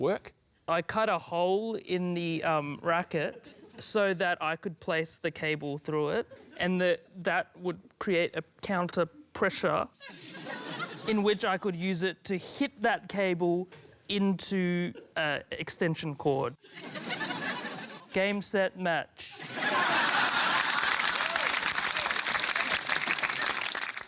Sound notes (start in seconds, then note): 16.6 laughter; 19.2 laughter, applause